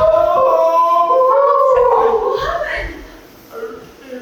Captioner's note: Deb wailing